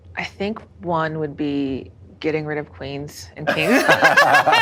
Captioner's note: laughs